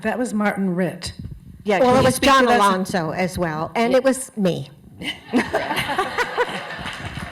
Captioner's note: laughter